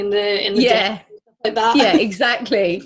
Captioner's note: both laugh